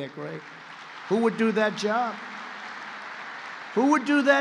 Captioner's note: applause